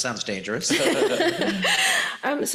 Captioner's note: laughs